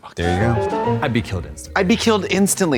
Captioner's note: bright chime